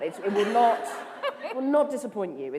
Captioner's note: laughter